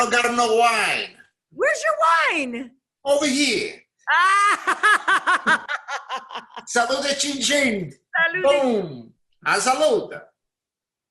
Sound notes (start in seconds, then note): 4.1 laughs